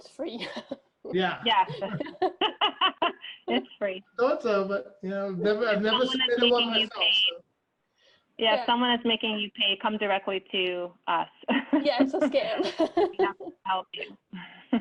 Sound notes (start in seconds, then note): 1.6 laughter; 10.1 laughs